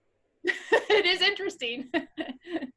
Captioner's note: chuckling